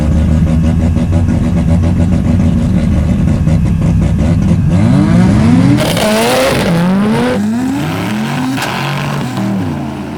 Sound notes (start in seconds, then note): 5.2 engines roaring